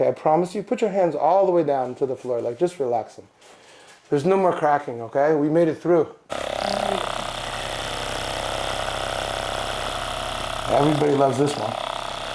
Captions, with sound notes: I promise you, put your hands all the way down to the floor. Like, just relaxing. There's no more cracking, okay? We made it through. (massager humming) Everybody loves this one.